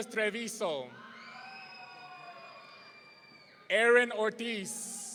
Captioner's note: audience cheering